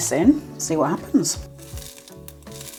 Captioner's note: sizzlig crackle